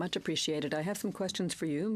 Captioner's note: speaking French